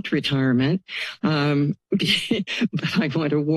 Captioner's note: laugh